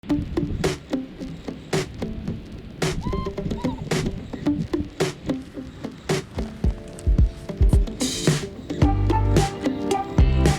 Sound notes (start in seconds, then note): 0.0 upbeat music; 3.0 dog whimpering; 3.3 upbeat music